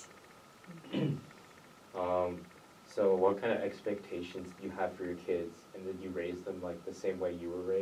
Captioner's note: clears throat